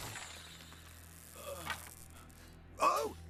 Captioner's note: groans